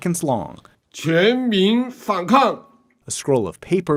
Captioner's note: speaking foreign language